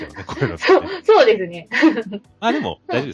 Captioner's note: laughter